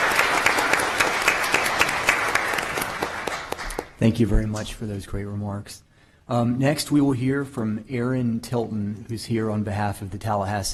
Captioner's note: applause